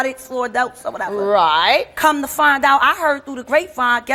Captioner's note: none